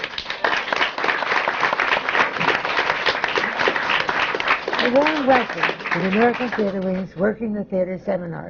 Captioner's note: applause